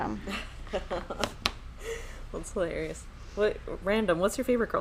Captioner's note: laughing